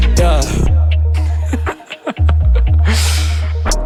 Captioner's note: laughing